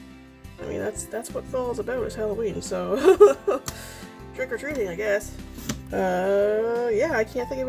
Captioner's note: laughs